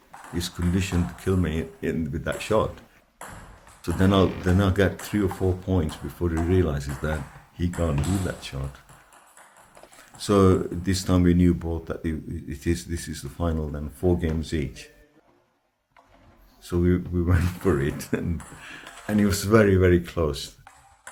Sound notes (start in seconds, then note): 17.3 laughs